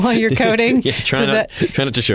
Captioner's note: laughter